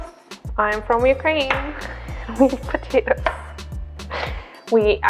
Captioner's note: laughs